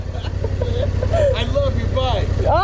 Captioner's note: both laughing